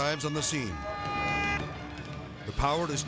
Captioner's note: fire engine siren blares